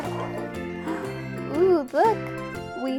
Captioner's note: gasps